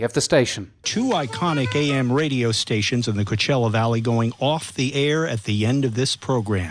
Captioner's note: radio